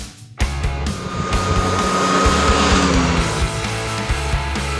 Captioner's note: motorcycle revving over music